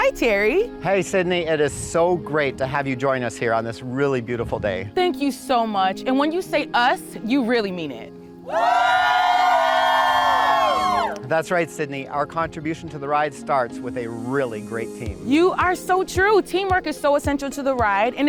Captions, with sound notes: - Hi Terry. - Hey Sydnie. It is so great to have you join us here on this really beautiful day. - Thank you so much. And when you say us, you really mean it. (staff shouting) - That's right, Sydnie. Our contribution to the ride starts with a really great team. - You are so true. Teamwork is so essential to the ride.